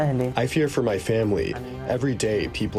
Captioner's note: through translator